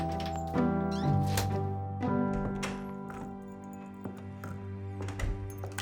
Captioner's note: door banging; gentle music